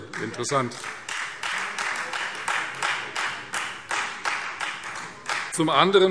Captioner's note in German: Beifall Freie Demokraten